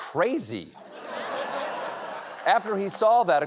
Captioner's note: laughter